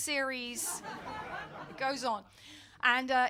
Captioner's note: audience laughing